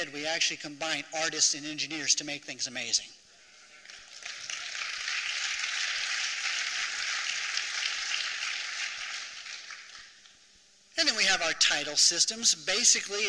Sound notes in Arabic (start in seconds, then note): 3.8 تصفيق